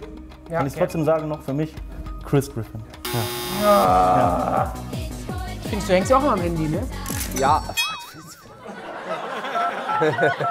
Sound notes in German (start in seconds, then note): 3.6 Stöhnen; 9.2 Lachen, Wählton